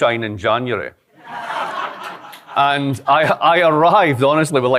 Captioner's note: laughter